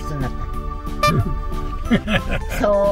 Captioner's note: laughs